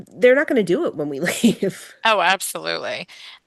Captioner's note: laughs